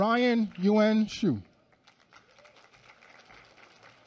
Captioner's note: applause